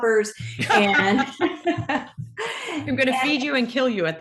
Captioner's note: laugh